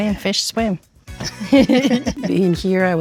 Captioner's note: laughing